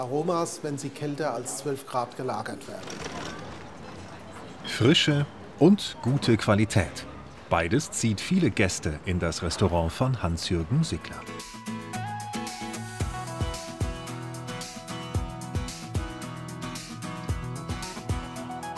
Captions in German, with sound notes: wenn sie kälter als zwölf Grad gelagert werden. Frische und gute Qualität - beides zieht viele Gäste in das Restaurant von Hans-Jürgen Sickler. (Stimmengewirr) (Entspannte Musik)